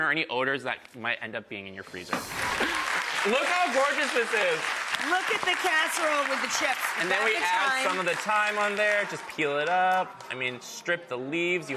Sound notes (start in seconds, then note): 2.4 clapping and cheering